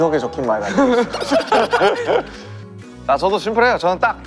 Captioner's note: hahaha